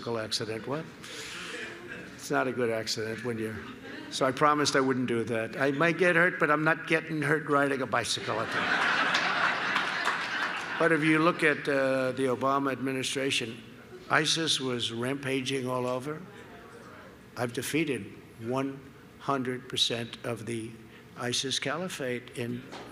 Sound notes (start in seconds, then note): 8.2 laughter